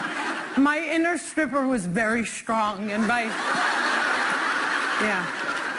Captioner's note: laughter